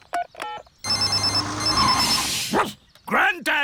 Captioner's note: phone ringing; beeping; barks